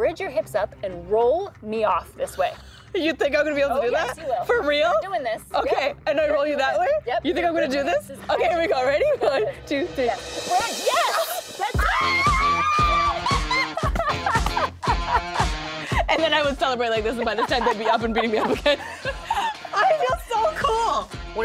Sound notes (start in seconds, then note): 11.7 screams; 12.5 laughs